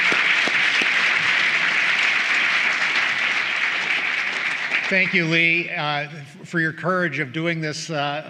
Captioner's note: applause